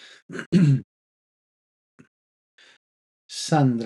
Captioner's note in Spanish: carraspeo